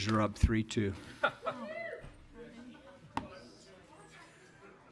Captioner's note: laughter and shout